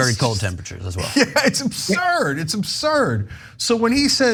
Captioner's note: laugh